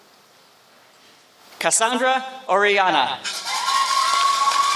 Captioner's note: applause